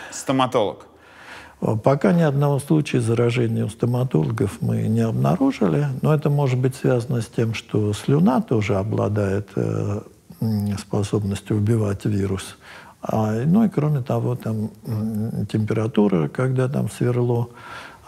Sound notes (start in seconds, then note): none